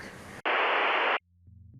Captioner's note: static